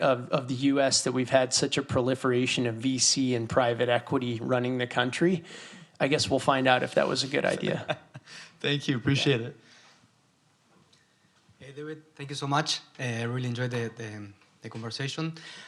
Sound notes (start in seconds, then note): 7.4 laughter